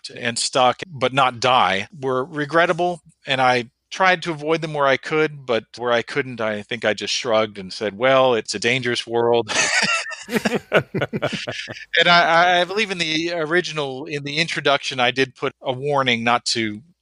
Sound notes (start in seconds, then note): 9.5 laughs